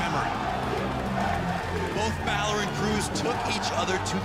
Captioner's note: crowd cheering